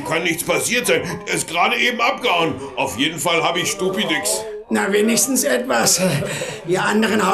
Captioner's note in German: gelächter